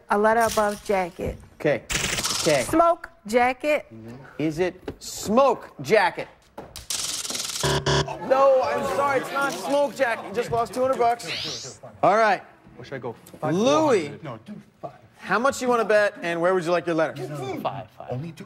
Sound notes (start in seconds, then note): 7.6 buzzer